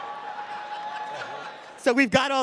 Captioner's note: cheers